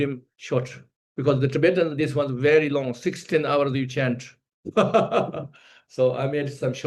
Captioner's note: laughs